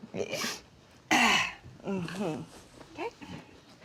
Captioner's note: Mama exhales